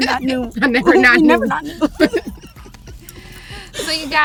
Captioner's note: laughs